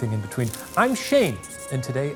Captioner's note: paper crinkling; marker scratching